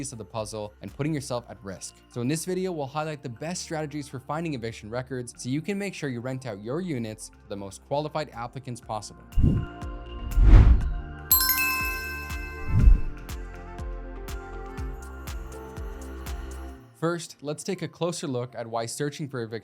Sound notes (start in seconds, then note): 9.5 light ambient music; 11.3 bell dinging